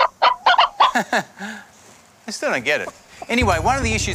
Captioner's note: clucking; laughs